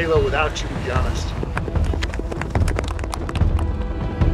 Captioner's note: crew applauding